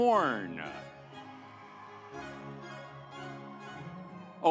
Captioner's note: audience applauds